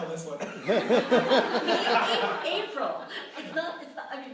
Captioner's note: laughter